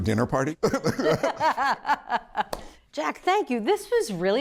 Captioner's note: both laughing